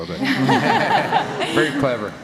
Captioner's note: laughing